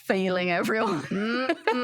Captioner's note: laughter